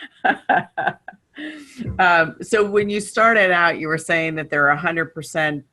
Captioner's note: laughter